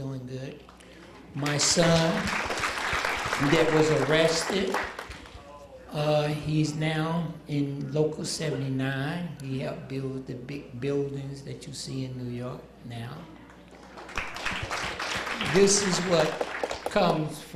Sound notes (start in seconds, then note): 3.1 applause